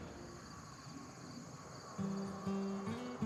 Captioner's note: insects chirping